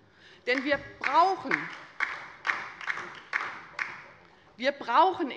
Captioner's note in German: Beifall bei der LINKEN